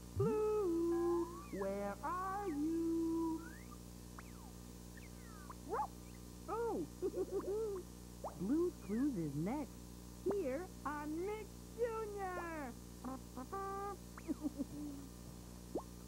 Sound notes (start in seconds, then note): 5.7 barks; 6.9 giggles; 14.2 giggles